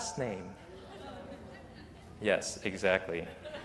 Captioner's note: laughter